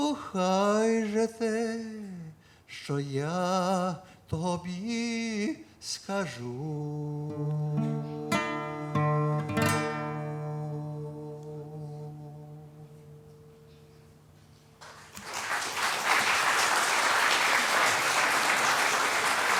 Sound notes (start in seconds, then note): 14.8 applause